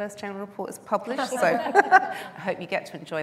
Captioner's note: laughter